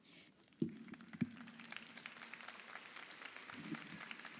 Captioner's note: audience applauding